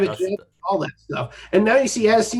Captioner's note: murmurs